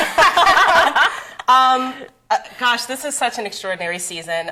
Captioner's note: laughter